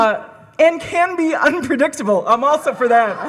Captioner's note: laughs